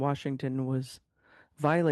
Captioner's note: speaking French